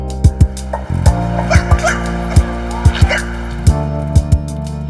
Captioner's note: dog yipping